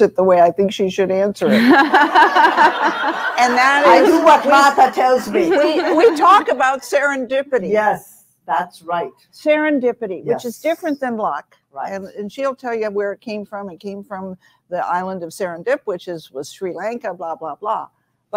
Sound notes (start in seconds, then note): 1.5 audience laughing